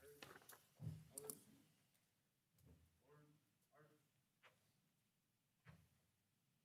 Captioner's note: speaking distantly